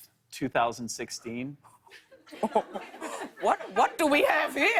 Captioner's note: laughs